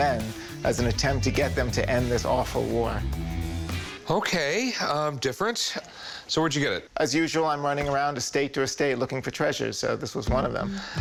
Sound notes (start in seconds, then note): none